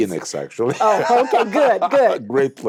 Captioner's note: laughs